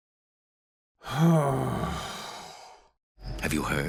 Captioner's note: exasperated sigh